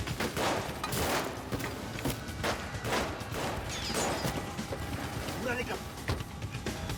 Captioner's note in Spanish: tiroteo